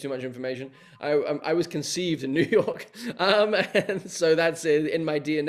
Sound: chuckling

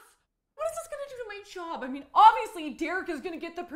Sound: none

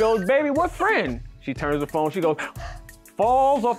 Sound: gasps

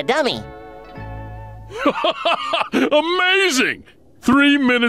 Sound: laughing

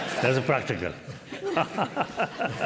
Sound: laughter

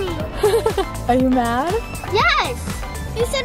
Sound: laughs

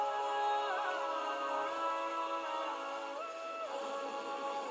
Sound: voices begin to swell louder

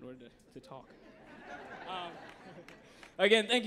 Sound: audience laughs

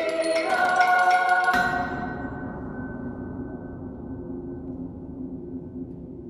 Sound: hammer sound expanded

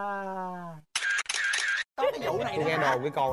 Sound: camera shutter sounds

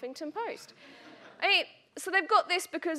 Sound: audience laughing

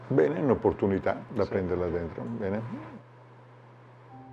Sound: foreign language

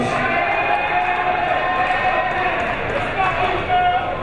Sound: crowd members shouting

